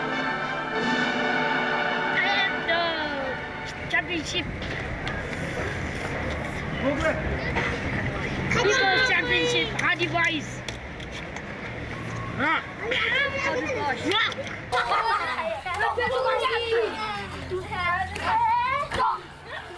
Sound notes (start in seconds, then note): 14.6 kids grunting, laughing